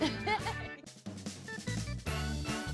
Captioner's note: laughs; upbeat music